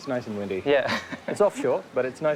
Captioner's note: laughs